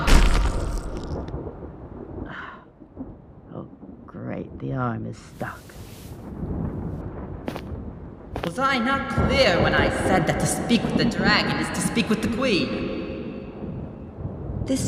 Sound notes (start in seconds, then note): 0.0 SMASH! Mechanical sounds stop; 3.0 natural voice; 8.9 booming voice